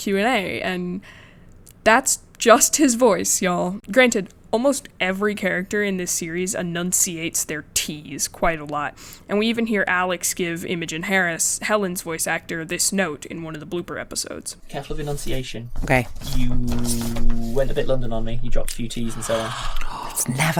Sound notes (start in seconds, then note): 14.5 playing audio from podcast; 19.3 gasp